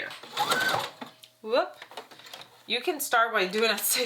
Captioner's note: sewing machine whirs